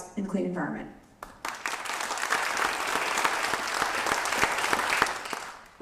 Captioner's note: applause